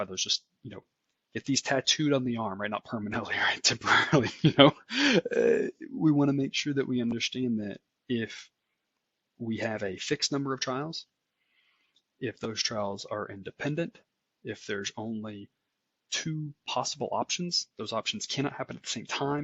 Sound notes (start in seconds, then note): 3.9 laugh